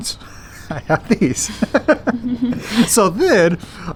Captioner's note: laughing